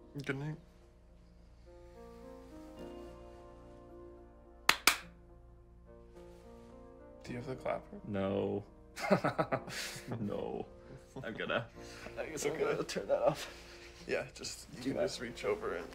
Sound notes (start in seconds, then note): 4.6 claps twice; 8.8 laughs